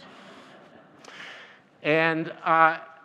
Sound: audience laughs

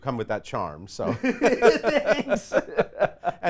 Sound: laughs

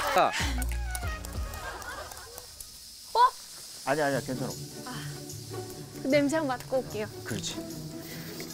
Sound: sound of rice being made

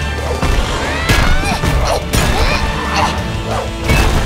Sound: grunting

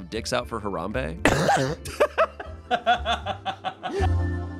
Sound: everyone laughs

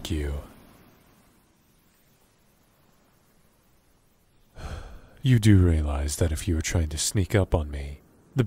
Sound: calm waves; deep breaths; sighs

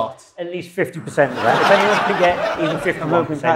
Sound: audience laughs

